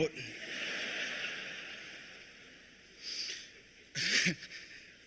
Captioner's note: laughter; laughter